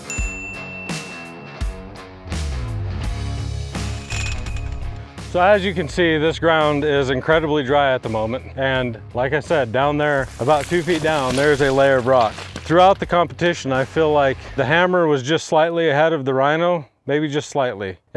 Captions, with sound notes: (bell dinging) (metal clanging) - So as you can see, this ground is incredibly dry at the moment and like I said, down there, about two feet down, (rocks banging) there's a layer of rock. Throughout the competition I feel like the Hammer was just slightly ahead of the Rhino, maybe just slightly,